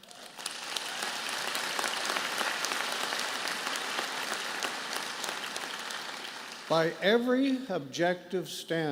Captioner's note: applause